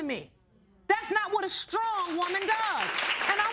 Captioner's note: audience applauding